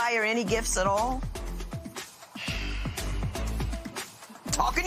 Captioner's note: sighs